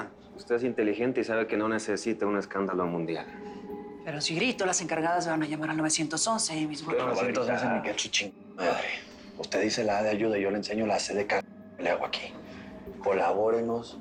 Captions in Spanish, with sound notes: AQUI EN PLENO MANHATTAN. - USTED ES INTELIGENTE Y SABE QUE NO NECESITA UN ESCANDALO MUNDIAL. - PERO SI GRITO, LAS ENCARGADAS VAN A LLAMAR AL 911 Y MIS... [Hablan al unísono] - QUE 911 NI SU -------- MADRE. USTED DICE LA "A" DE AYUDA Y YO LE ENSEÑO LA "C" DEL -------- QUE LE HAGO AQUI.